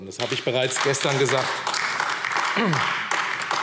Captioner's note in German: Beifall AfD